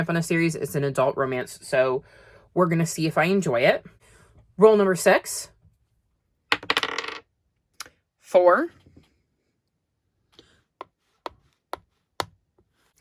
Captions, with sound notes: on a series. It's an adult romance so we're gonna see if I enjoy it. Roll number six. [Sound of dye landing on the desk] Four. [Sound of tapping as the kitty moves]